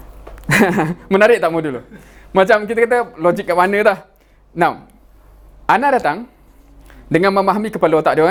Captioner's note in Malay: ketawa